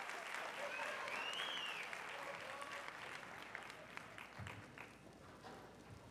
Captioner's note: applause